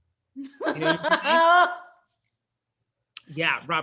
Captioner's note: laughs